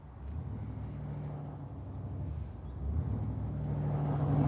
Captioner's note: engine rumbling